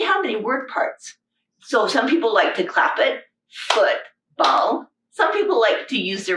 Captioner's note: clapping